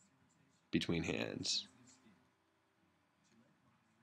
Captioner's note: pause